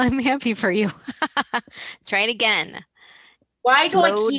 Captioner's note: laughs